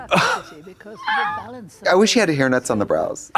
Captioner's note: Katya rasps